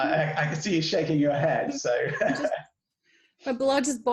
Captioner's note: laughs